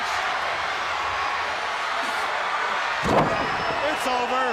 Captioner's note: crowd cheering